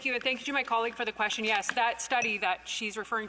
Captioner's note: speaking indigenous language